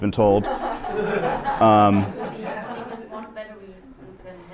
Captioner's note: laughter